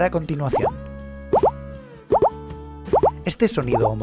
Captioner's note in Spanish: Sonido código centrado